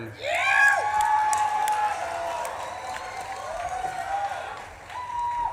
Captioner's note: audience claps and cheers